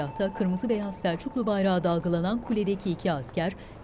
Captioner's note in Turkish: Rüzgâr sesi